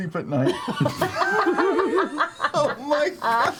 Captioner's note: all laugh